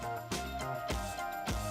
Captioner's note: applause